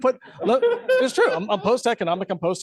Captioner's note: laughter